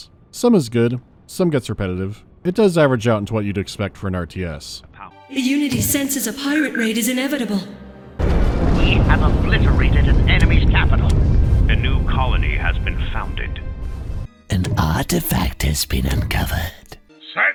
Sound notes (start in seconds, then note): 5.2 impassioned female voice with slight echo; 8.6 disciplined male voice with slight radio muffling; 14.5 hoarse ingratiating voice; 17.3 eccentric, played-up piratey speke